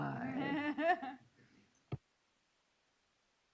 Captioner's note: laughs